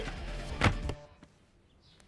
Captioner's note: Shelf closes